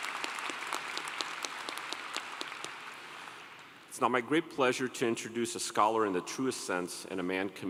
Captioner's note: applause